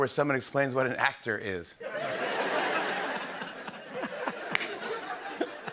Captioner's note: laughter